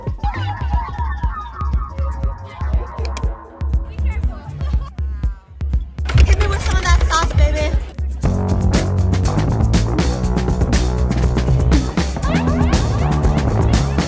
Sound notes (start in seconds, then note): 0.1 bouncy music; 4.4 laughs; 8.2 lively music